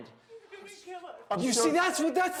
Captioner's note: sobbing